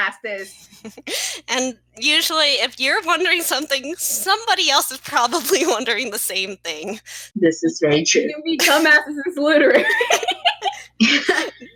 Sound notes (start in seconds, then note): 0.4 cute giggle; 9.5 laugh; 9.6 giggle